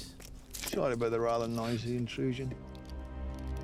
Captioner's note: scottish accent